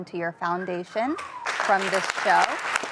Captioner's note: applause; whistles